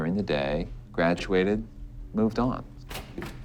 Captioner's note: door opens